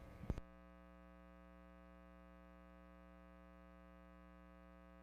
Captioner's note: continuous buzzing